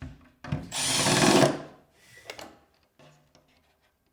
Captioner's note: drill whirring